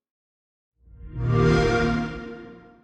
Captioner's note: xbox sound